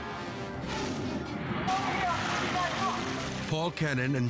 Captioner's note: water splashes